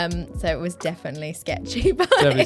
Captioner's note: laughs